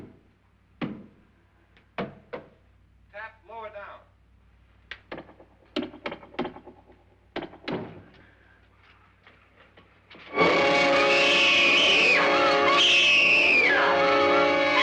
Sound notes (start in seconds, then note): 0.8 hand thumping; 10.3 intense music; 11.7 person screaming